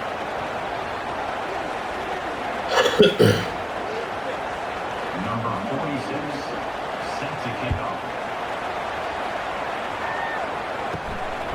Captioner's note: crowd Noises